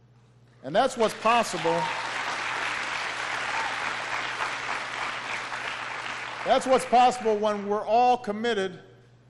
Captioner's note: applause